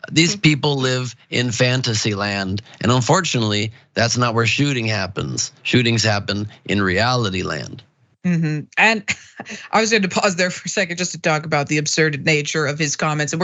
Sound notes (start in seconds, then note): 9.0 laugh